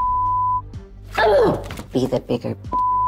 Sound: grunting

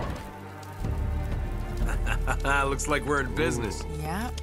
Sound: laughs

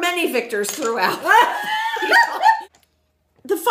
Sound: laughs in background

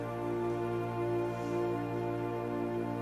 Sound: sighs

